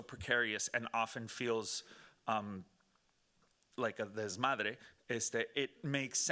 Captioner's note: speaking Spanish